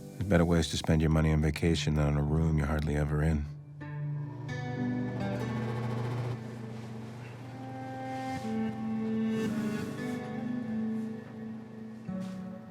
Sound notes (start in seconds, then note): 4.0 somber guitar music; 4.4 AC humming; 9.3 somber guitar music